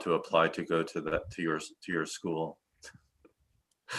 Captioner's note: laughs